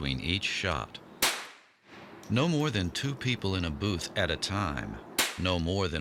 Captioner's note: gun firing; gun firing